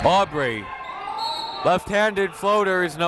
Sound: whistle

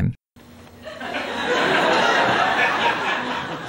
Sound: audience laughter

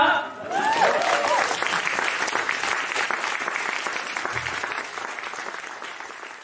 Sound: applause

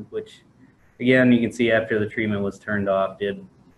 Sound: none

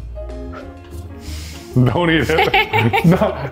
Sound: light music; blows; laughs

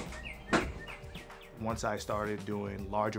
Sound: birds chirping

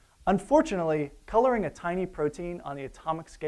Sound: none

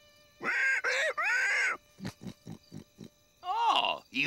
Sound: rolo grunting

